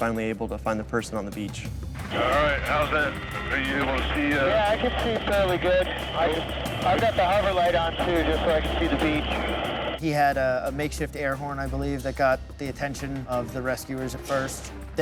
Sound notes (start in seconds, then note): 2.3 man On Radio